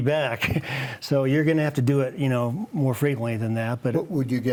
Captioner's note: chuckles